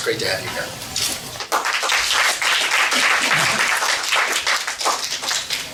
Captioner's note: applause